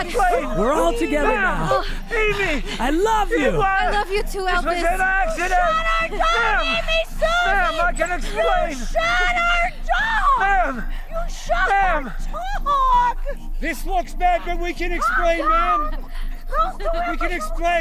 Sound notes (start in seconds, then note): 15.0 Amy giggling